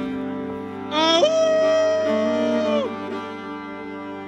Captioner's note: is howling